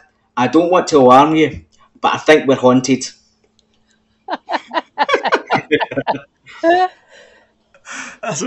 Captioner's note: laughter